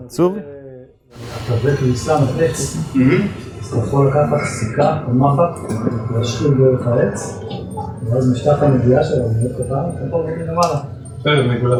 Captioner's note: audience chatter